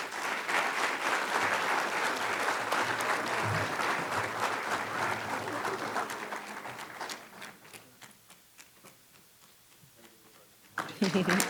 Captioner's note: applause